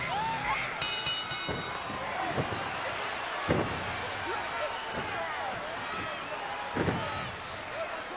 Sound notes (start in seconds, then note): 0.7 bell rings; 2.9 audience chattering